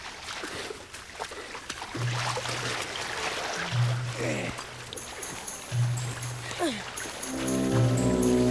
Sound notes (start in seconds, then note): 1.7 tense eerie music; 1.7 water splashes